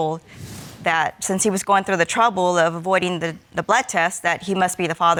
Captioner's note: none